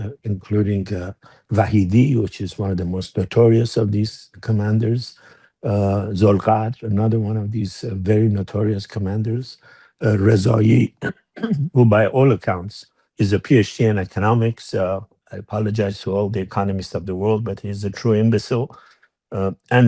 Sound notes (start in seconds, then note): 10.6 clears throat